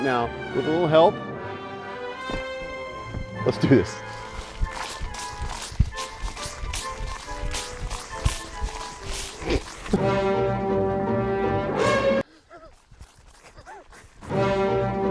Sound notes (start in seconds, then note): 4.3 grass squishing; 10.0 dramatic instrumental music